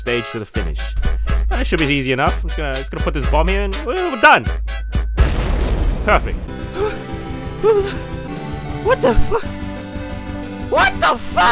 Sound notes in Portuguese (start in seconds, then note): 5.2 explosão